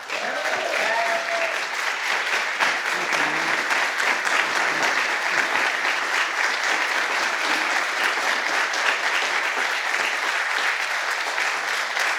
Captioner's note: applause